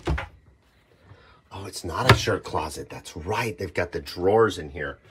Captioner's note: short gasp